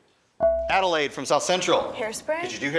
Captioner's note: buzzer chimes